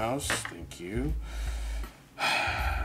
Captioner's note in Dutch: glas rinkelt